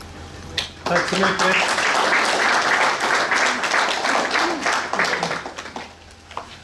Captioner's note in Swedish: Applåder